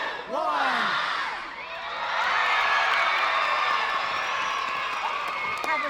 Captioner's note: audience cheering; audience applauding